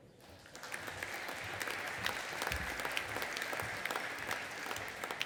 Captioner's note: audience applauding